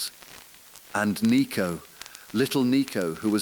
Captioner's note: exhale